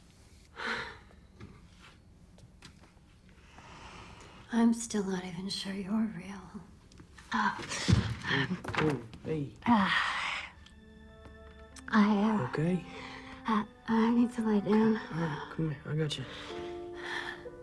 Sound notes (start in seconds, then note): 0.6 sighs; 7.8 groans